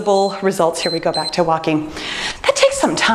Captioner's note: timer beeps